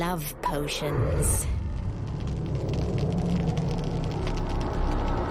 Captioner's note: fire raging